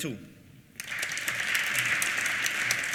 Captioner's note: applause